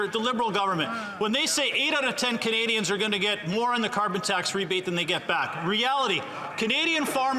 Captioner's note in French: voix de l'interprète